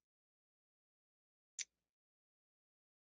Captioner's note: clicks